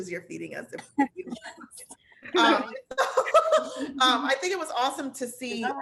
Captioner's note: laughter